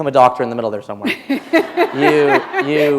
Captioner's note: laughter